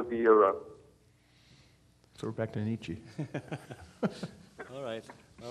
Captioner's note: chuckling